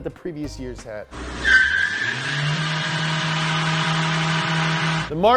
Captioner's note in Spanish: revoluciones del motor